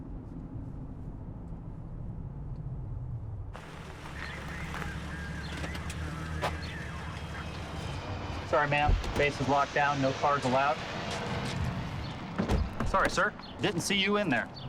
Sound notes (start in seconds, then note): 3.6 radio dispatch chatter